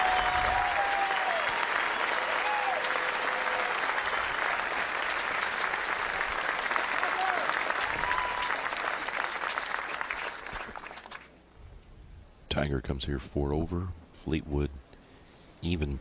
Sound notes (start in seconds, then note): 0.0 applause; 3.8 cheers